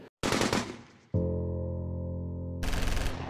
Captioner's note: machine gun firing; dramatic instrumental music